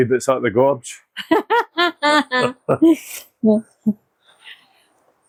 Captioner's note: unicorn Laughs